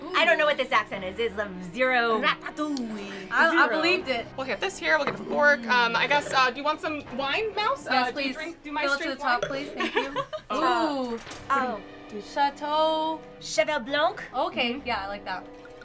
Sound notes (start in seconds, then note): 9.7 laughs